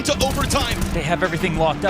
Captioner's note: gun firing